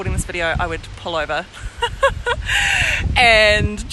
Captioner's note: laughs